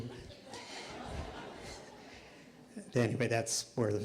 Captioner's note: laughter